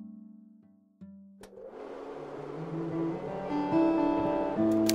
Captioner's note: projector clicks, whirrs